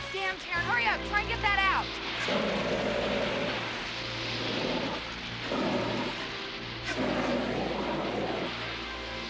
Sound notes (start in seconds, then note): 1.8 fire extinguisher whooshing